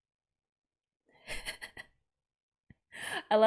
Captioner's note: laughs